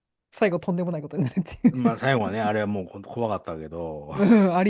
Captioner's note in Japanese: 笑い